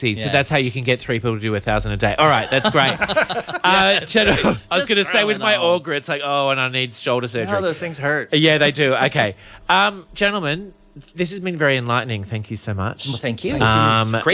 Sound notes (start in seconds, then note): 2.3 laughs